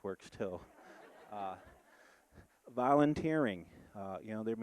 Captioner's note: audience laughing